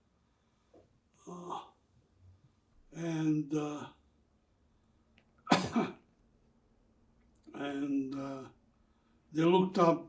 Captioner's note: coughing